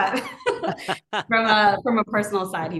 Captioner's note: both laughing